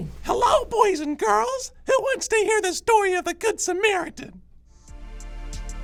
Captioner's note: puppet voice